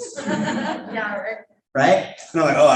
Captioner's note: audience laughing